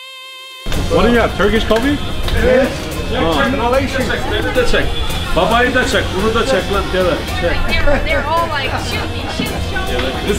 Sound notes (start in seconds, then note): 3.8 speaking foreign language